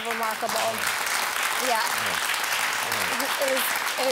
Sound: audience applauding

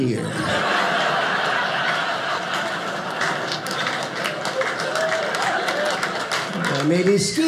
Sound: audience laughing

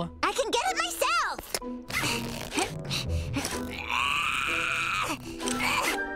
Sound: grunting

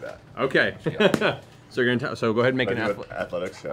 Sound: laughing

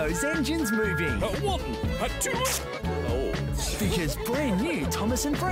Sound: children giggle

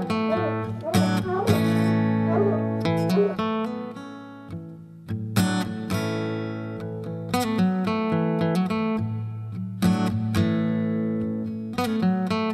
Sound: music/dogs barking

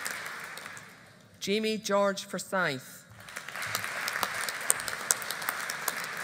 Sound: audience applauding

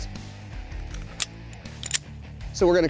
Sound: loads gun

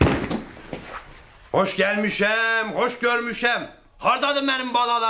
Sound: with Azerbaijan accent

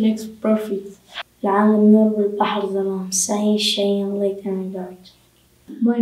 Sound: speaks Arabic

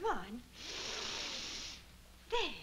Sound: taking a breath in

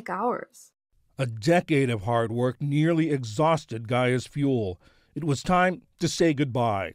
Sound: voice-over

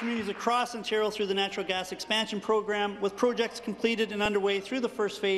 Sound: applause

